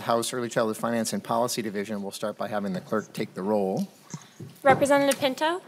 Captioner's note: gavel